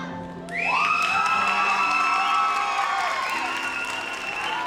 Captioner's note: audience applauds